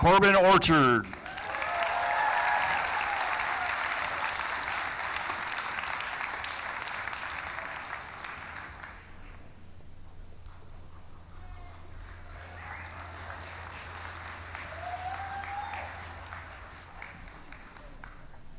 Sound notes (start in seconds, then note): 5.1 applause; 15.6 cheering